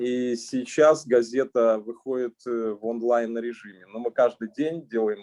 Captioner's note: speaking Russian language